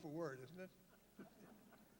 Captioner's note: laughter